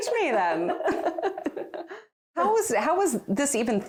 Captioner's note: both laughing